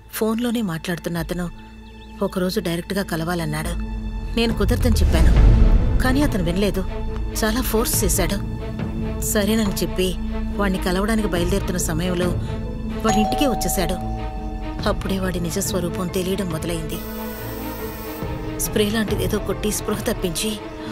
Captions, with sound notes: 'Suddenly one day he said he wants to meet me.' 'I said no but he insisted on it and forced me.' 'When I was getting ready to go and meet him...' '...he directly came home.' - [Door bell rings] That's when I understood his true colors. He sprayed something on me to make me unconscious.